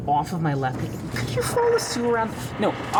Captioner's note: duct creaks